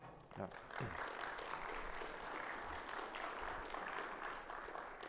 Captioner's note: audience applauding